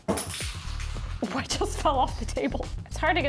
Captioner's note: plate clinking